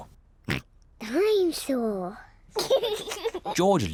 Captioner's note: snorts; giggles